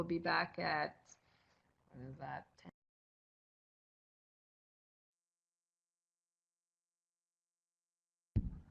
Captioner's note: no sound. Pause for break in recording